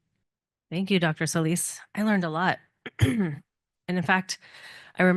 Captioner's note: cough